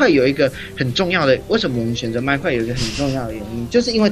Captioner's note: snicker